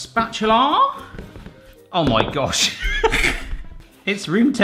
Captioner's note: laughing